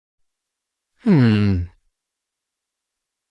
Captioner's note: hums contemplatively